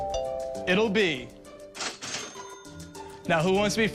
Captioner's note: DoorBot Ringing; cash Register Noise